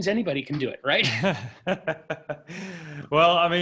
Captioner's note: laughs